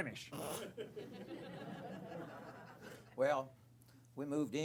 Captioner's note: laughter